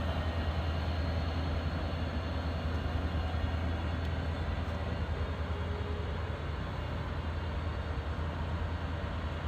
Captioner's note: plane engine roaring